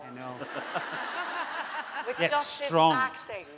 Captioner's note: laughing